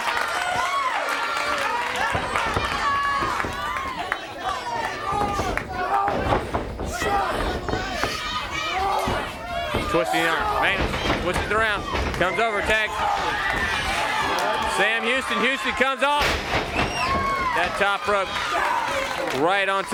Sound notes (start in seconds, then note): 16.1 crowd cheering; 17.3 crowd chatter